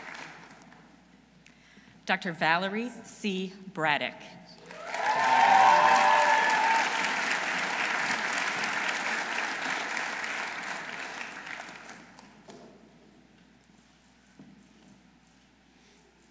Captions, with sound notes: Dr. Valerie C. Braddick. -(audience cheering) -(audience applauding)